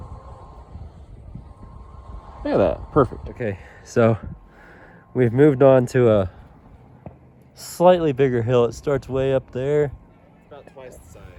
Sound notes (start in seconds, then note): 2.1 normal voice